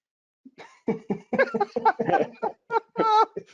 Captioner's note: all laugh